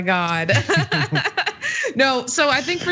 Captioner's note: laugh